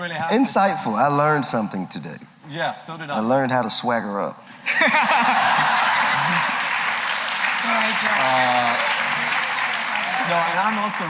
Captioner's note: laughter